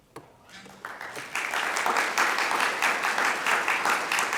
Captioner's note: audience applauding